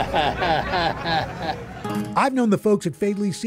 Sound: chuckles

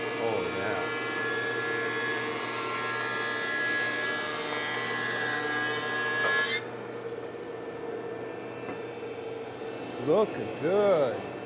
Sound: planer buzzes

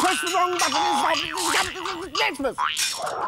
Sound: Distressed Mayor noises

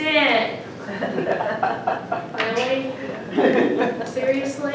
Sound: laughing

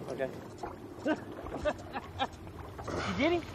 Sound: laughs

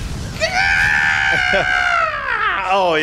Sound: screaming

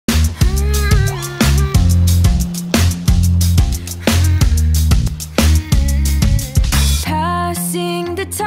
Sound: humming

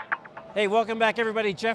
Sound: crowd

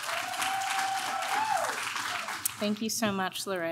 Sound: applaud

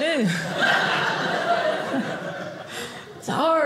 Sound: audience laughing

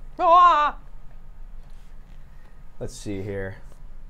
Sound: groans

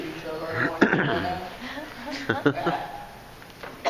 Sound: clearing throat

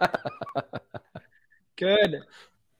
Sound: laughter

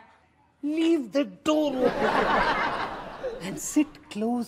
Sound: audience laughs

